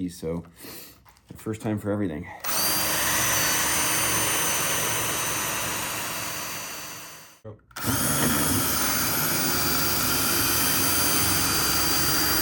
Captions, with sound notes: so the first time for everything. (machine whirring)